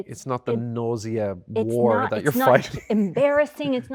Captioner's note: laughs